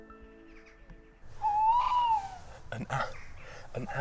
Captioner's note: owl hoots